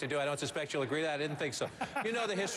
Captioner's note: laughter